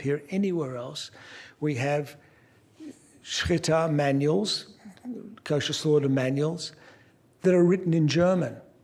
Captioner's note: non-english